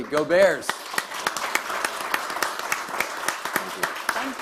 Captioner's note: audience applauding